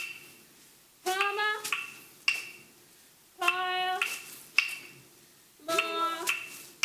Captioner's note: speaking foreign language